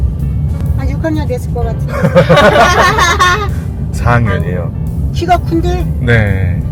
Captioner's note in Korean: 웃음